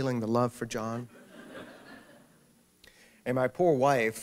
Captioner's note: laughter